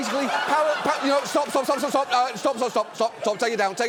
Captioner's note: audience laughs